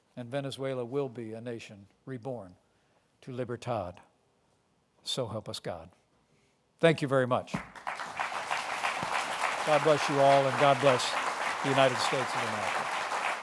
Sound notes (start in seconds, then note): 5.6 applause